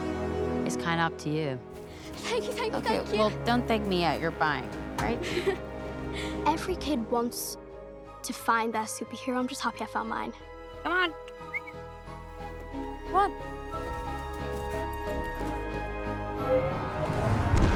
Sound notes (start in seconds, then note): 5.1 Ruthye chuckles; 10.9 whistles; 16.5 engine powers up